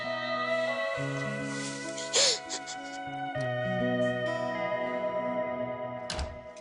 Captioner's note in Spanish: Sollozos